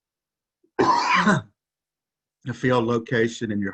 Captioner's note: coughs